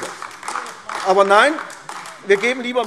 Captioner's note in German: Beifall AfD